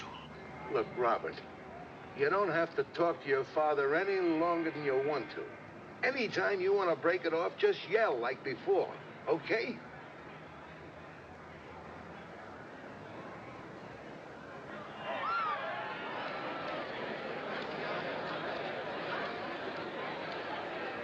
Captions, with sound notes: LOOK, ROBERT, YOU DON'T HAVE TO TALK TO YOUR FATHER ANY LONGER THAN YOU WANT TO. ANYTIME YOU WANT TO BREAK IT OFF, JUST YELL LIKE BEFORE. OKAY? [ Screaming, Chattering ] .